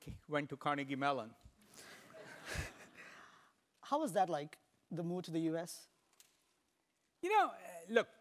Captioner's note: laugh